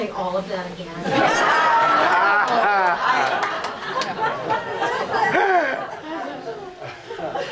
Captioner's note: audience laughs